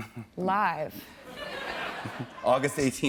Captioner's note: laughter